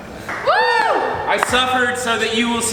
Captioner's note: cheering